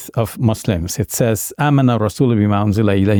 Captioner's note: speaks in Arabic language